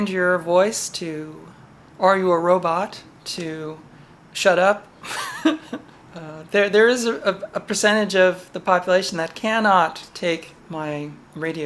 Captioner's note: laugh